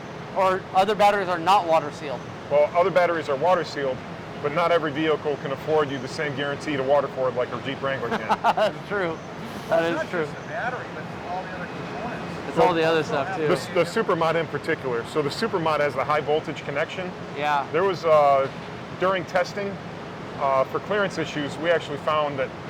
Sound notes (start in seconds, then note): 7.9 laughs